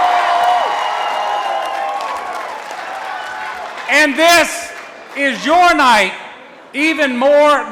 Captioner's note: cheering and applause